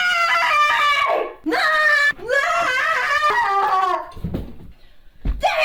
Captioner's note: Delia screaming